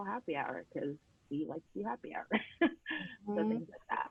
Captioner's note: laughing